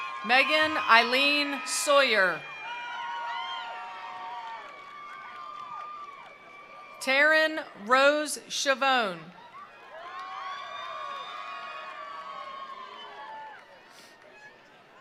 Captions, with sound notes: Megan Eileen Sawyer. (attendees applauding) (attendees cheering) Taryn Rose Shivone. (attendees applauding) (attendees cheering)